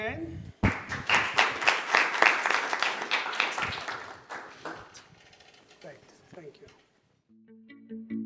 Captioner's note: applause